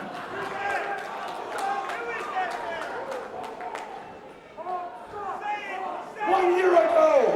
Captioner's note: crowd chatter